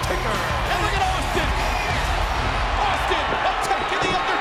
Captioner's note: crowd cheering